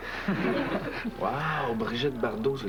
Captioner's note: Rires